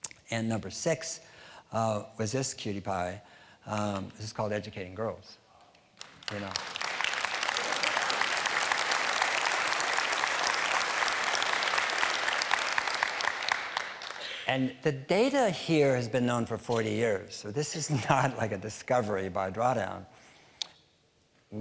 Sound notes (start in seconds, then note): 5.9 applause